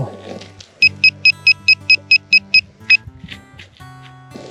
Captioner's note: detector beeping